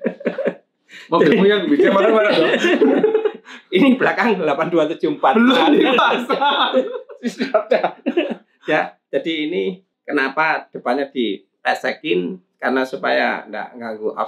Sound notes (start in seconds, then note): 2.4 laughs; 5.5 laughs